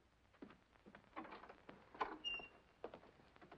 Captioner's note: door opens